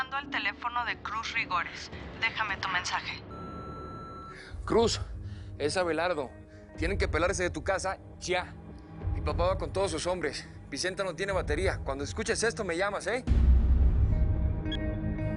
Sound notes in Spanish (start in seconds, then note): 3.2 Bip